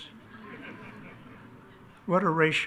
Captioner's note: attendees laugh